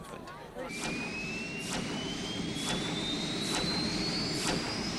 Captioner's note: mechanical whirring, getting louder